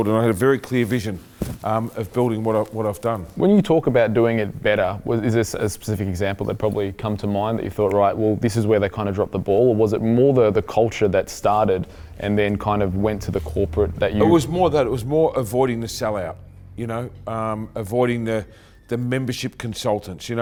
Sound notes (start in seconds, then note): 8.2 snapping